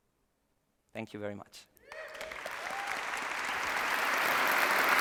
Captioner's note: applause